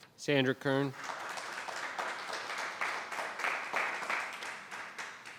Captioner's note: audience applauds